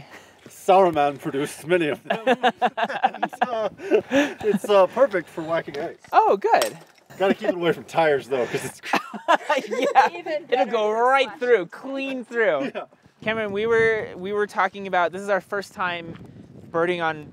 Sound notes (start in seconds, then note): 1.7 laughing